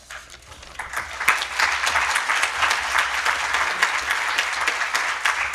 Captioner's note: audience applauding